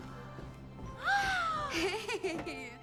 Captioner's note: Cara gasps; laughs